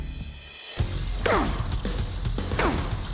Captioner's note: grunting; dramatic rock music playing